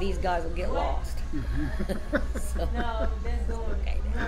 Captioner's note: laughs